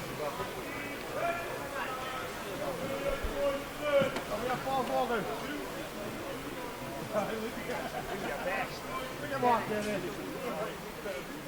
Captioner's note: voices and sounds of the Fish Market